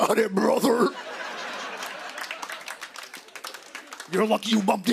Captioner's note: laughter